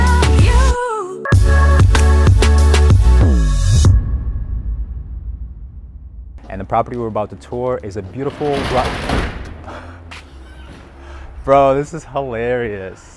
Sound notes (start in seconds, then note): 8.1 post office truck door slams